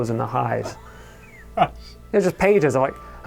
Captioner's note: laughs